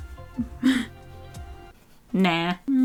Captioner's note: laughs